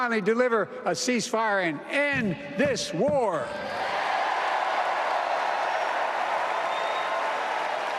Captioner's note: applause